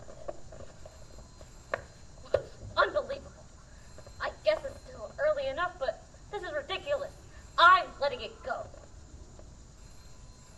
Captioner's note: phone rings